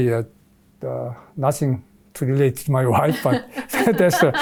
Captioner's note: laughs